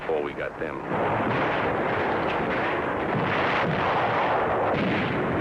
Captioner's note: grenades exploding